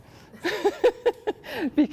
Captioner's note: laughter